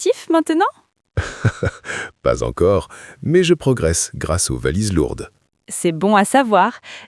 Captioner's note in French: rire